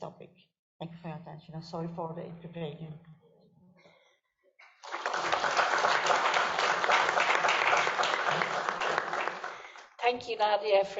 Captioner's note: applause